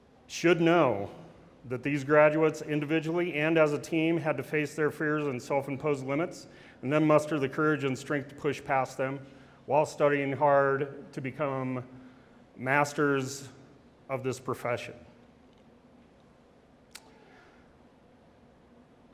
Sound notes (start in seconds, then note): none